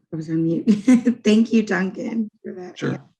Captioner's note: laughing